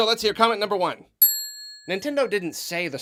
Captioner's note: ding